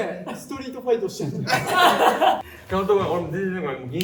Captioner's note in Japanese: 笑い声